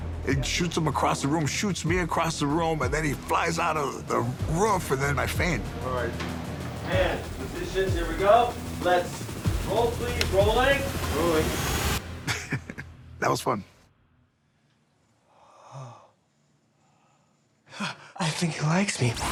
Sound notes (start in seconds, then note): 12.2 laughing